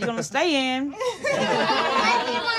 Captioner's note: laughing